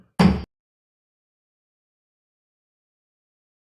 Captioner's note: gavel banging